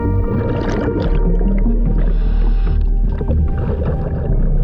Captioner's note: water bubbling